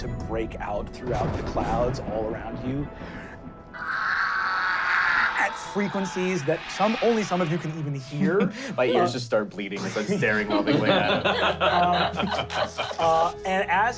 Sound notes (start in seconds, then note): 3.7 shrieking; 11.7 laughing